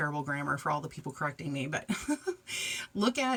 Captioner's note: giggles